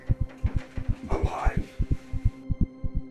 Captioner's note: whispering